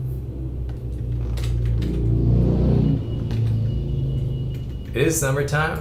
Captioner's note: vrooooom